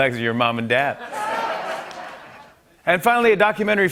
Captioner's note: laughter